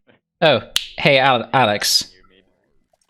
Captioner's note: snaps fingers